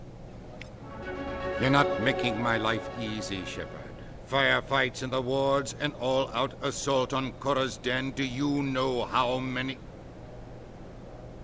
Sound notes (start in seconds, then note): none